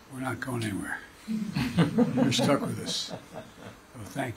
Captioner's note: laughter